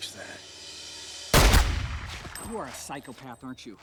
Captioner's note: gunshot fires